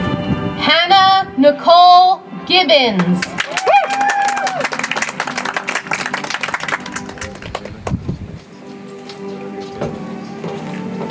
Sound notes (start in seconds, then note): 3.0 audience applauds; 8.4 soft music